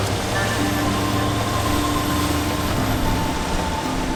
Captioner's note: boat engine roaring